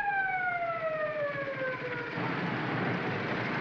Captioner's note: police siren wails; motorcycle engines clatter